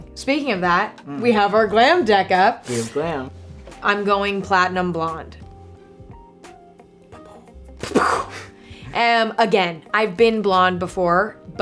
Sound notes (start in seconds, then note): 7.8 mimics explosion sound with mouth